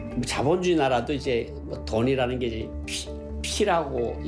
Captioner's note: speaking Korean